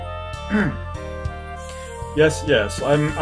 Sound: clears throat

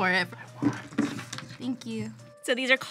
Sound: whispers

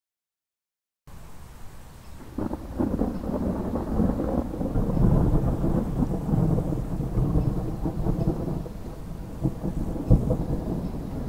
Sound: sound of dry thunder

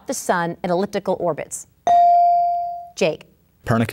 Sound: ding

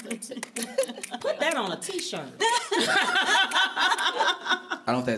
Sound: laughter

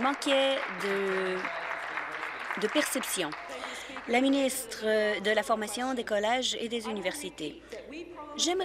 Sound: applause

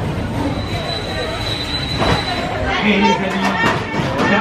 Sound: high-pitched squeaking; announcer speaking in French

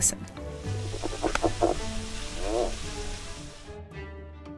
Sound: frog croaks

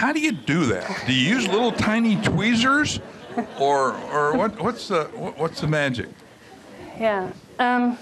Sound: laughter

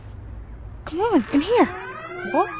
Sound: door creaks

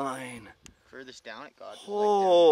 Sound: murmurs

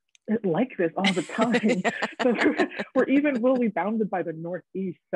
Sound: both laughing

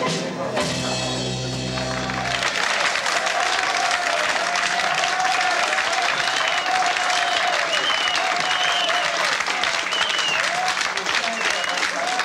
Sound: applause

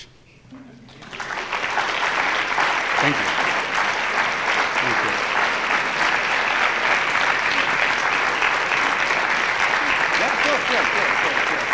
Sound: applause

